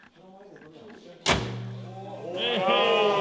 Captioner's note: bonnet closes